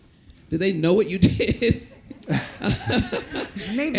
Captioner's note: laughs